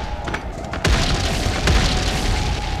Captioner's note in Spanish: Sound explosión